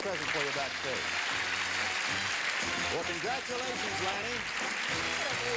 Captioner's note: applause